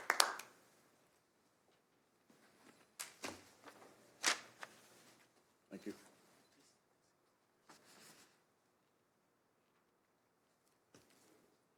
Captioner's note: applause